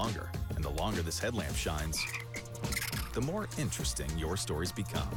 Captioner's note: ribbit, chattering